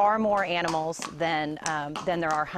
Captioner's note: nats - hooves clicking